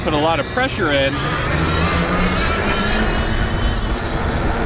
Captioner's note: wheels whirring